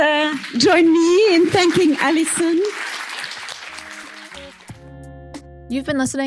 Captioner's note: applause